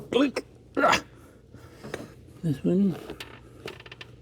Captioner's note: grunts